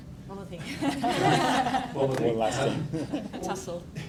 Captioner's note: panel laughs